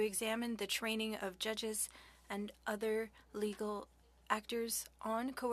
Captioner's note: speaking French